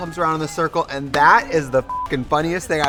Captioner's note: beep